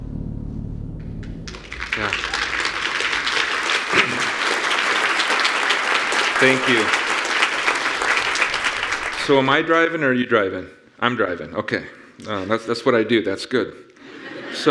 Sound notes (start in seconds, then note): 1.4 audience applauding